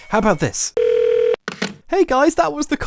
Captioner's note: phone trilling